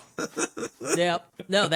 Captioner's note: laughing